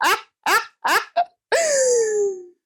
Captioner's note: finally a breath